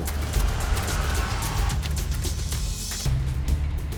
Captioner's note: brakes squealing; suspenseful music